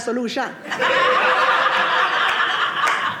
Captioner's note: audience laughing